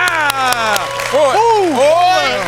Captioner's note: applause